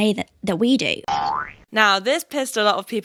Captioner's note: spring boing